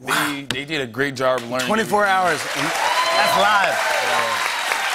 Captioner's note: cheers and applause